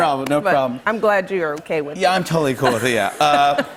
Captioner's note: laughter